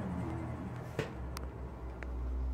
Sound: clunk

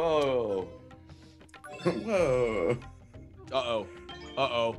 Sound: laugh

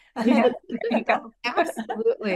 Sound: laughter

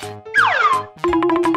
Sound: slide whistle; quick drumming

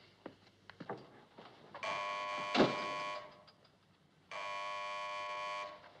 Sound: phone Buzzing

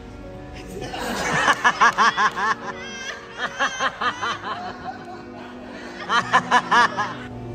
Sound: laughing

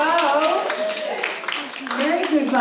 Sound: applause

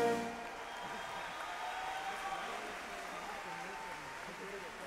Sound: audience cheers and applauds

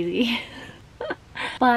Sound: laughing

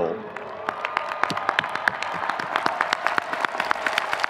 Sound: audience cheering

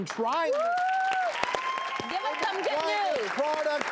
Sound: audience cheers and applauds

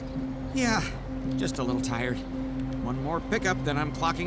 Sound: none

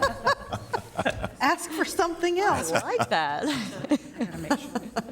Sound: laughter

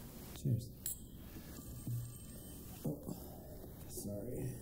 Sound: phone ringing

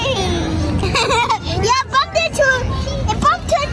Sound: laughing

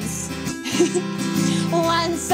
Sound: chuckles

